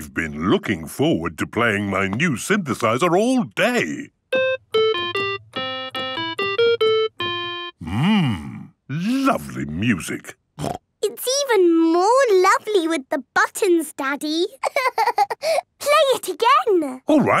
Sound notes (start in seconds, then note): 4.3 playing theme song; 10.6 snorting; 14.6 laughing